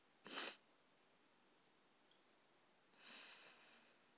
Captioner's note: soft sniffles